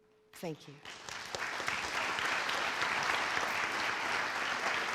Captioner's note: audience applauds